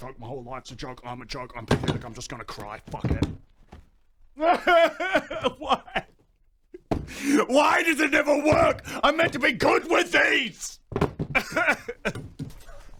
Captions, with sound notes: My whole life's a joke, I'm a joke I'm pathetic I'm just gonna cry, fuck it *bawling* Why????? WHY DOES IT NEVER WORK?! I'M MEANT TO BE GOOD WITH THESE *tears of defeat*